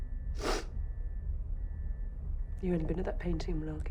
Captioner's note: sniffs